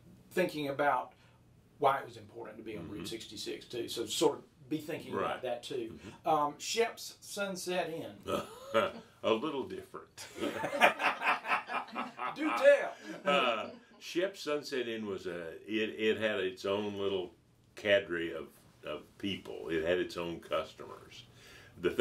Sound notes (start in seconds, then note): 10.2 both laughing; 10.2 chuckling